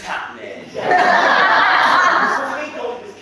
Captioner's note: audience laughs